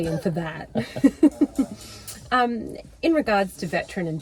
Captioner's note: laughs